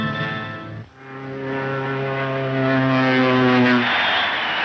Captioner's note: plane engines whining; audience cheering